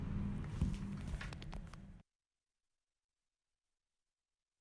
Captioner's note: audience applauds